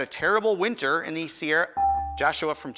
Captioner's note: buzzer chimes